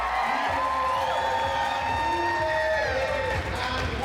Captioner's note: cheering and applauding; announcer singing